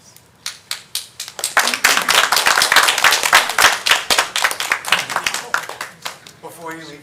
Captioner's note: applause